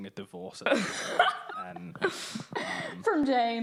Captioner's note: all laughing